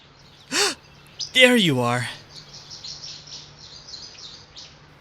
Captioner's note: gasp